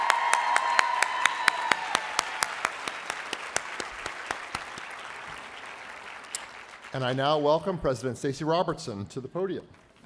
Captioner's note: applause